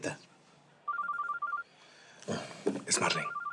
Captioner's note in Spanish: suena el celular